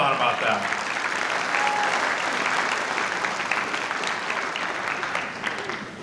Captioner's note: applause